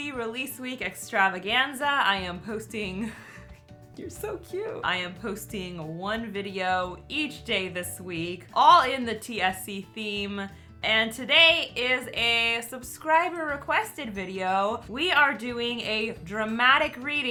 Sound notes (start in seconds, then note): 3.0 chuckles